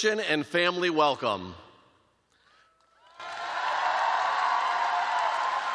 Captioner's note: cheers and applause